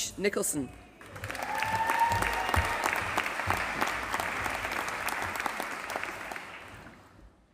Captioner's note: applause